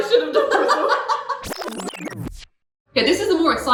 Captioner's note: laughs; air warbles